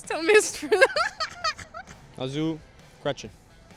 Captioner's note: laughs